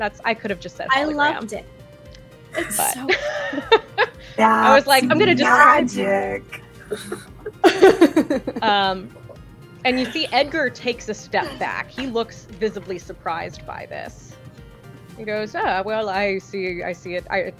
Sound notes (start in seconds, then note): 3.4 through a voice modulator; 6.8 laughter